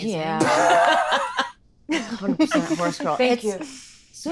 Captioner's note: laughs